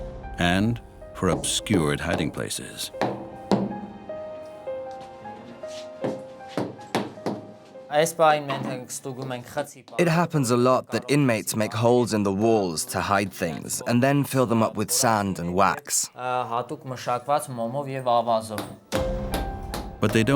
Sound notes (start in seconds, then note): 6.1 voiceover